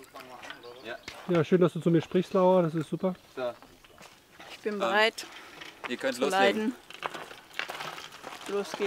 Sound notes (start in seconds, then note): 4.4 swallows